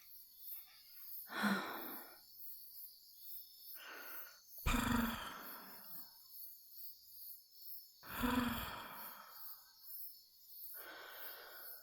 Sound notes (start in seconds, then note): 4.6 purring softly as you look up at her